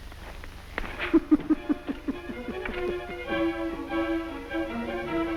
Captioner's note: Kuzminichna laughs; upbeat music